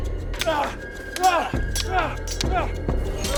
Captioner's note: dramatic music; both moaning; swords clanging